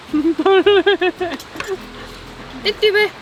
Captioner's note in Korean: 웃음